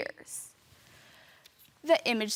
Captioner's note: rustling